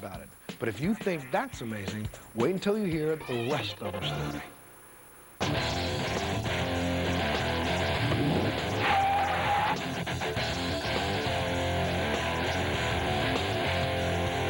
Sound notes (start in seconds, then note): 8.8 revs engine; 9.7 tires screech